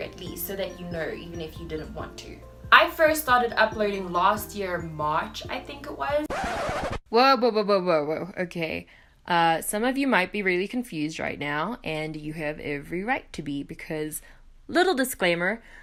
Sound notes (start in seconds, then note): 6.1 record scratch sound effect